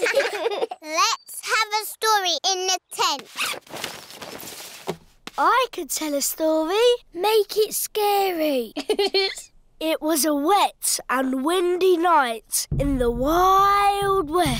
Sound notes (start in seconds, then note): 8.7 giggling